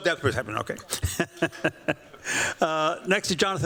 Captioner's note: chuckles